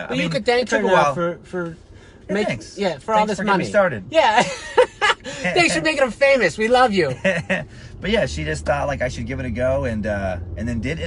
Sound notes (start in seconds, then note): 5.2 laughs